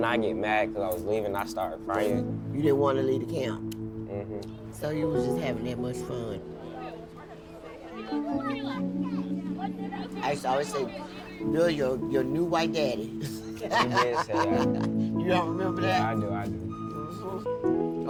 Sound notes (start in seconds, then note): 7.2 kids chattering; 13.0 laughing